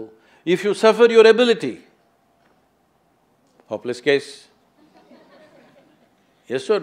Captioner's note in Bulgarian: смях